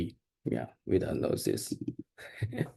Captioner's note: laughs